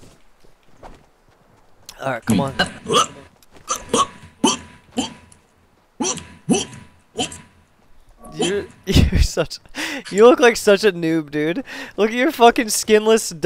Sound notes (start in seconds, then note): 7.1 puke